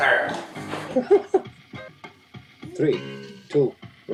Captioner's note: laughs